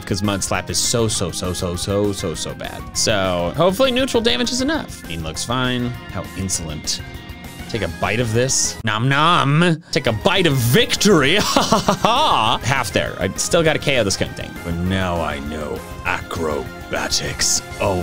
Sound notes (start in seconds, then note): 11.2 laughs